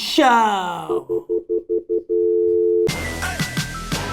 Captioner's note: dial tone; upbeat hip hop music